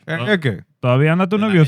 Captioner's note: speaking Spanish